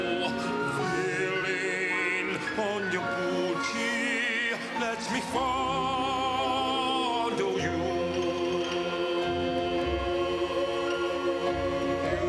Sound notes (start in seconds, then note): none